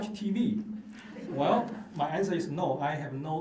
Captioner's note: laughter